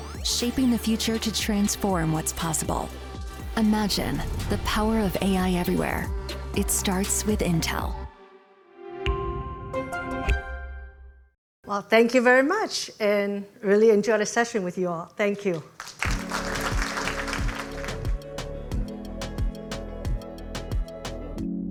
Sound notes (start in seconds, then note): 8.7 uplifting instrumental music; 15.7 audience applauding; 16.0 uplifting instrumental music